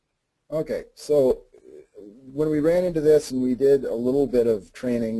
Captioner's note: voiceover